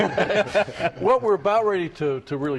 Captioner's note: laughter